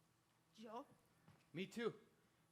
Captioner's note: speaks in Spanish